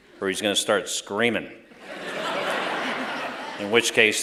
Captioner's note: laughter